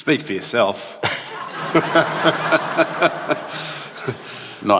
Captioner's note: laughter